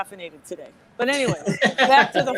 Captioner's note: laughs